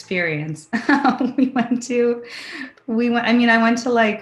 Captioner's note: laughs